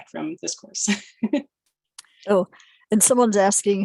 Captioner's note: chuckling